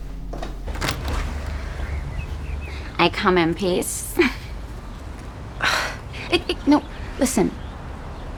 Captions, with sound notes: (Door opens) I come in peace. (laughs) (sighs) No, listen.